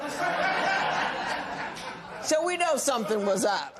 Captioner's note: laughter